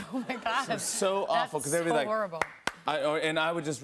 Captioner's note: claps